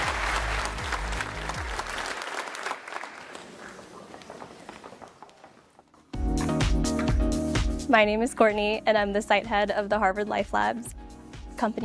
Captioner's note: applause